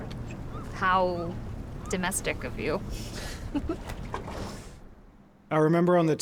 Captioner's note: giggles